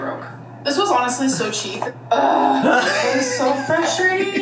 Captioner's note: groans